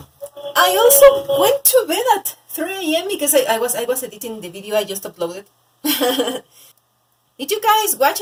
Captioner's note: giggles